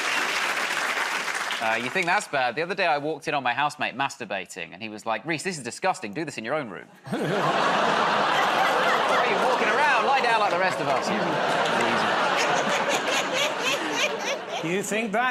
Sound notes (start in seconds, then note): 7.8 audience groans; 13.3 laughter